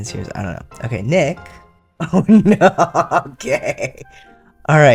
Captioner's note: laughter